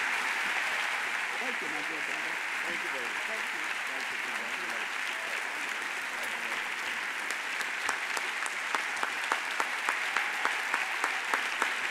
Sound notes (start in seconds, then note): 6.2 audience applauds